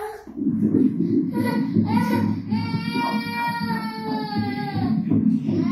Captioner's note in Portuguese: batimentos cardíacos